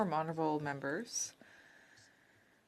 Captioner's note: speaking French